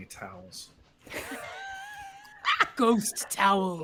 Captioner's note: all laughing